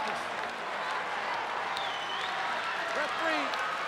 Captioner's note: crowd cheering